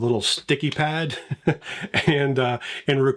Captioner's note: laughs